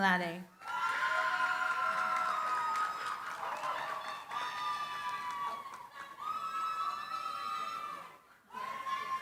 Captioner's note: cheering, applause